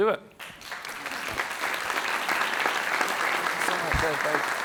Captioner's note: audience applauds